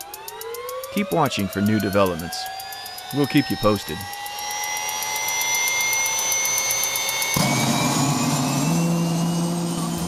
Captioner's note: sound of helicopter engine starting